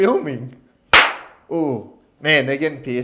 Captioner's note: claps